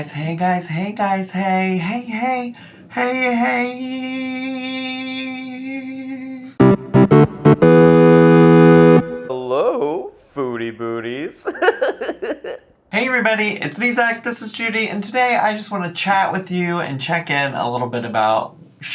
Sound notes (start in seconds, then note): 6.6 video game music; 11.4 laughing